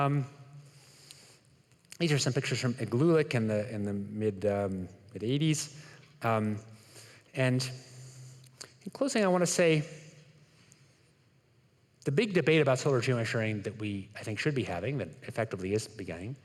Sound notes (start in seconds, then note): none